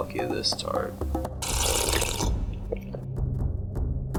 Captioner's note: sipping sound